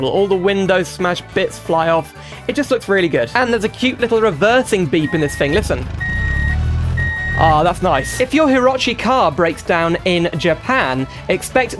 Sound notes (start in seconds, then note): 5.0 reversing Beeps